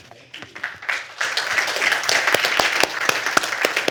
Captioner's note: applause